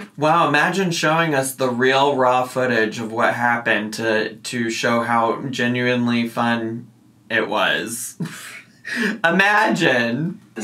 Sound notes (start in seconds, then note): 8.2 laughs